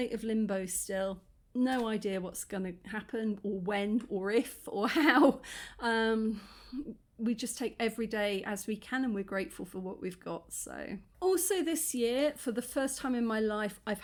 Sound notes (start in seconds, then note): none